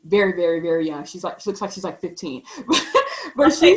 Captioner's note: laughs